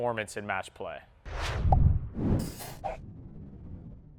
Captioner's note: swooshing